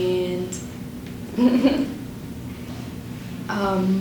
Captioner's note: giggles